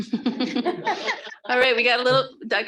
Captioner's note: group laughing